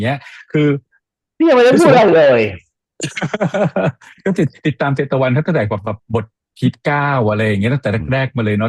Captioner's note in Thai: เสียงหัวเราะ